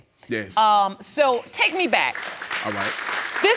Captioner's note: audience applauding